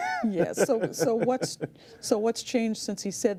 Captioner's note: laughs